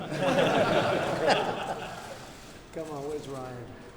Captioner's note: laughter